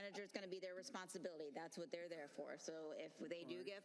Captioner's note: laughter